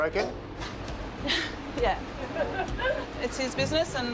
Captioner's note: laughs